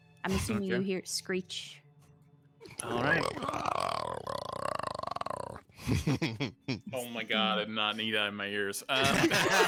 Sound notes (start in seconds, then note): 4.3 Freely screeches; 8.9 group laughs